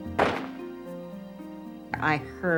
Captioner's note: bang